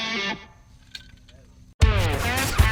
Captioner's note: clanking; music dies down